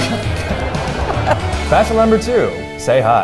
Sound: audience laughs

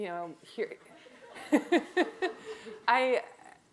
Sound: laughs

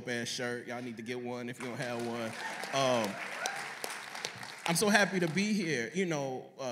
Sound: applause

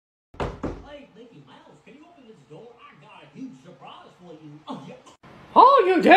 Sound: knocks on the door

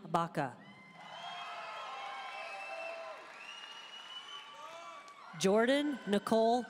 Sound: audience cheering and applauding

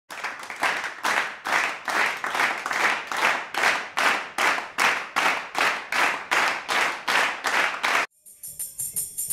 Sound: clapping to a beat

